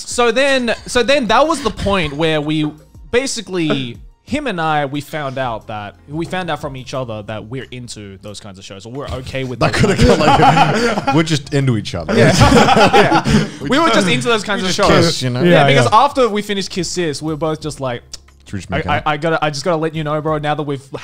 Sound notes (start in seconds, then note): 9.5 laughing